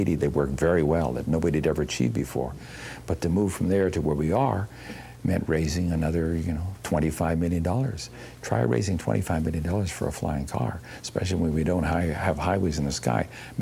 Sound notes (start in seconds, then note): none